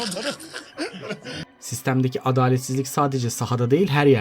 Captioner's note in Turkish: kahkaha